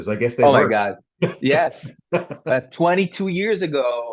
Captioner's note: laughs